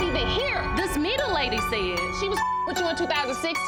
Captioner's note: beep